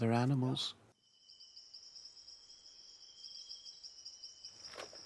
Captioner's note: insects chirping